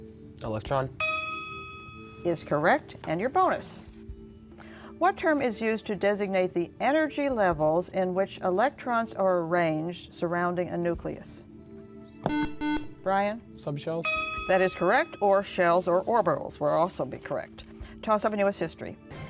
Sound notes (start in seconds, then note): 1.0 ding; 12.2 buzzer